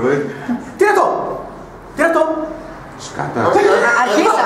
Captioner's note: laughs